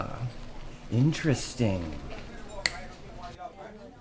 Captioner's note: snapping; diner patrons chattering